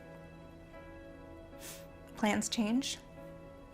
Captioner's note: sniffles